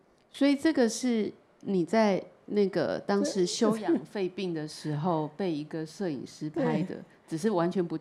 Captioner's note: Mandarin